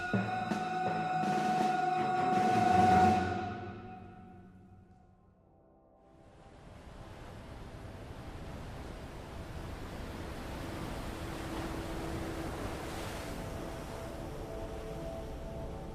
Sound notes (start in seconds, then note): 0.0 music fades; 6.1 soft music; 6.3 waves splashing